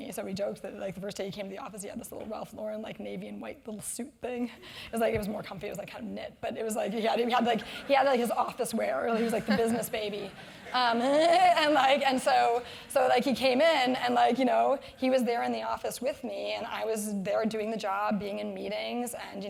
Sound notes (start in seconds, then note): 12.0 laugh